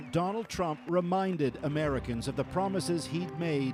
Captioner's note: cheers and applause